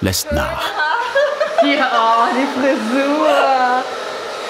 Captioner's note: laughter